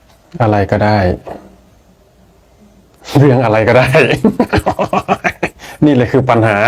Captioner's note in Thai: เสียงหัวเราะ